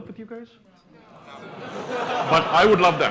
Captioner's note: laughter